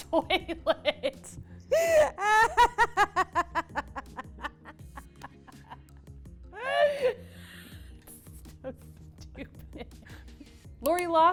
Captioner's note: laughs